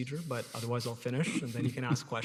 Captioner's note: laughs